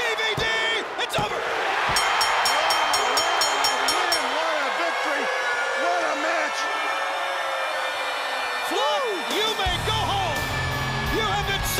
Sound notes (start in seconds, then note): 1.9 crowd chatter; 1.9 bell ringing; 9.6 crowd cheering